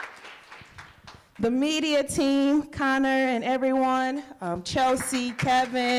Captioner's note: applause